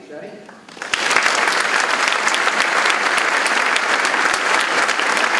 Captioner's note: audience clapping